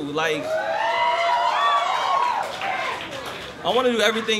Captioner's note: cheers